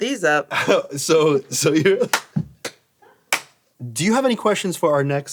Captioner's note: laughs